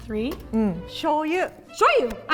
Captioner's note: speaking in Japanese